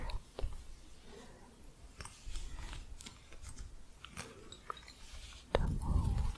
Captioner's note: jingly tapping on hooks